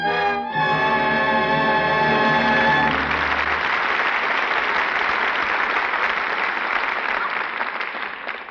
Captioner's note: applause